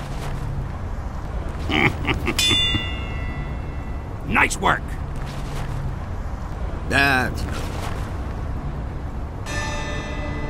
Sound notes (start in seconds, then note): 1.6 chuckling; 2.5 ding